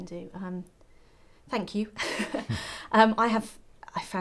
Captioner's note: laugh